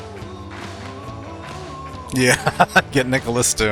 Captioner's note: laughing